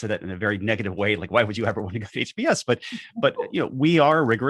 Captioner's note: laughs